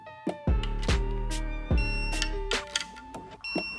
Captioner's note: beeping